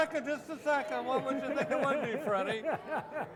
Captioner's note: laughing